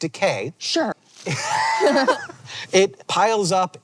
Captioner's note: BOTH laugh